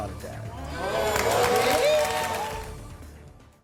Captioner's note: applause